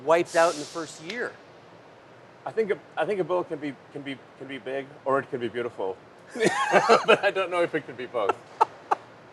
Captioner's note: laughs